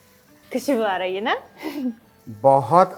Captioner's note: chuckles